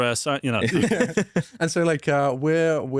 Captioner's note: laughs